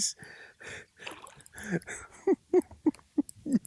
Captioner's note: laughs